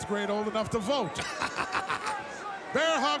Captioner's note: laugh